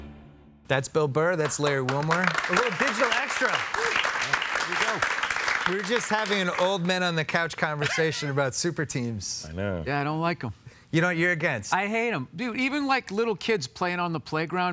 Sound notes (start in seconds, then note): 3.8 applause